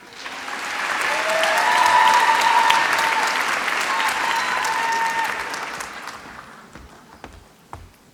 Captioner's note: applause